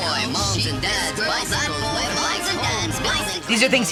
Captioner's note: babbling goofily